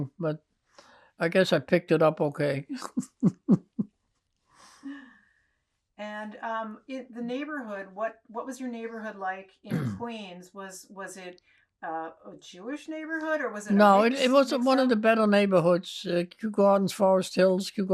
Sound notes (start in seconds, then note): 2.7 laughing